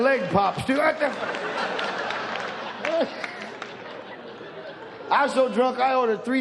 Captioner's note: audience laughs; exclaims